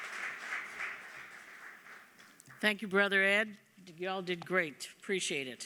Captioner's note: applause